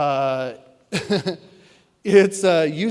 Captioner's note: laughs